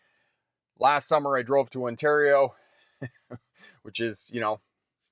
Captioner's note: chuckles